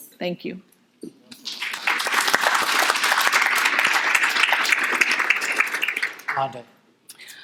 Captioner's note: audience applauding